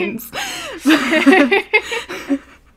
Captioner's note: hosts laugh